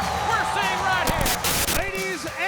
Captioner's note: static crackling; graphics hissing